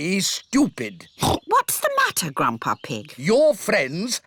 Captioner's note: oinks